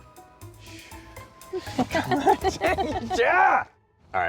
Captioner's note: laughs